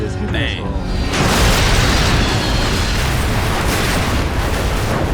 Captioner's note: loud explosions